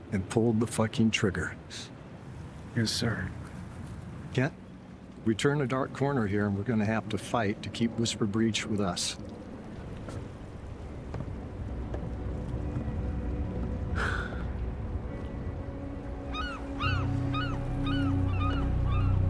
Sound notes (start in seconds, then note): 14.0 Kent sighing; 16.2 bird squawking